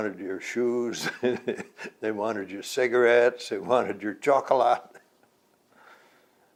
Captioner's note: laughs